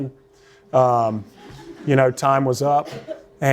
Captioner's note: laughter